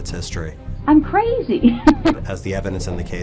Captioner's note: laughs